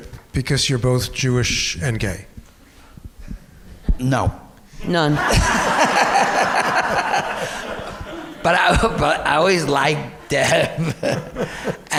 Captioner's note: audience laughter